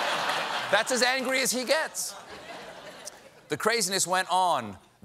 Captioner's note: laughter